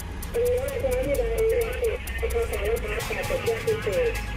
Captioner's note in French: Audio parlé en langue étrangère